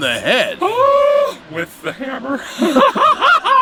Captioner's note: laughs